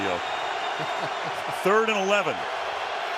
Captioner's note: laughs